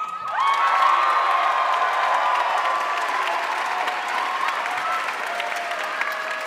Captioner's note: audience cheering and applauding